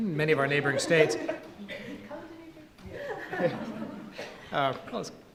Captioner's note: audience laughing